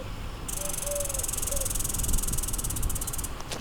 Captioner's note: squirrel chattering